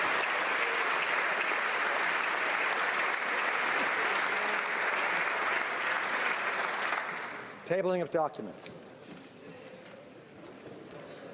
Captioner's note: applause